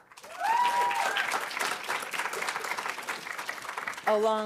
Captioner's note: audience cheering and applauding